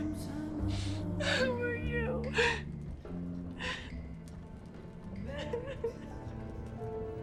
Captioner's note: crying